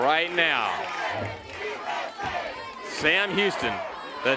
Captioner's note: crowd cheering